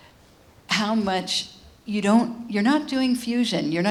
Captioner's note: none